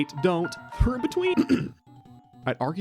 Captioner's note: ahem